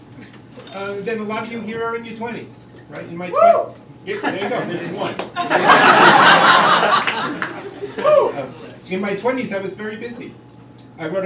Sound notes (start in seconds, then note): 5.3 crowd laughing